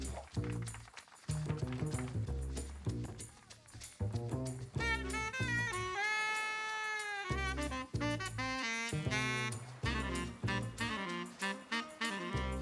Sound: applause

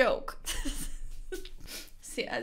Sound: chuckling

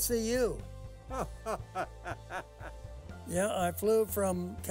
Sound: laughing

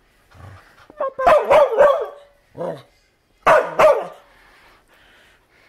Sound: barking, growling then barking

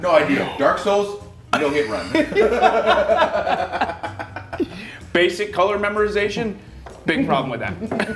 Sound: laugh

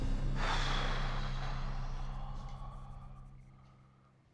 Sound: exhales sharply

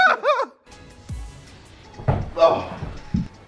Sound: laughs

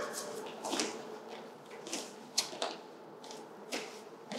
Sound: shoes clicking

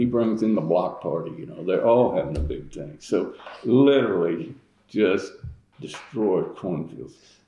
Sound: laughs

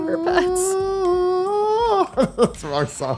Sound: humming

